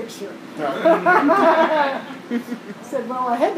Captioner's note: laughter